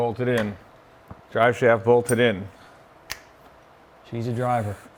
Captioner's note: fingers snapping